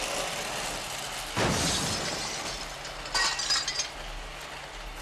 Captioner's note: crashing